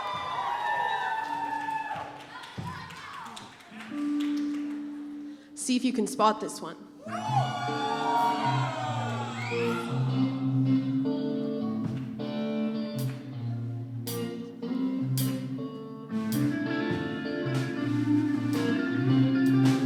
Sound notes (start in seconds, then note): 7.0 cheering; 8.2 instrumental music